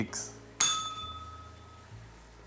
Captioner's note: bell rings